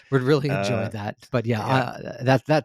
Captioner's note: laughs